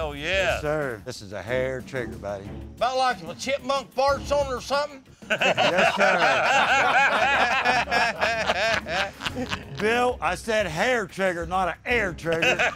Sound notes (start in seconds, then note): 5.2 laughter